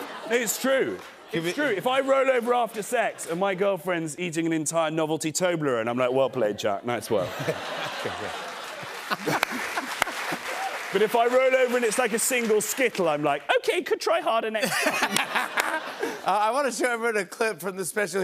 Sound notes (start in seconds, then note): 7.1 laughter and applause; 14.6 laughter